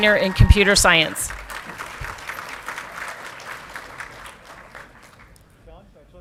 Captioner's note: audience clapping and cheering